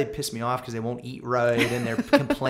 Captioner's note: laughter